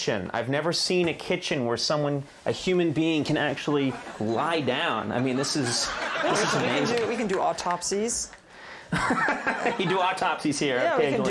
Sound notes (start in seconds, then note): 3.8 audience laughing; 8.9 Conan laughing